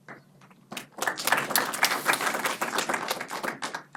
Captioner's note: clapping